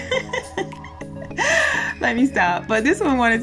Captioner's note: laughs